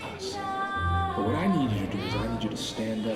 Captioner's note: tom's voice fades